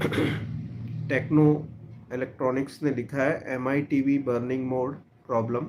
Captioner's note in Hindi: गला साफ़ करने की आवाज़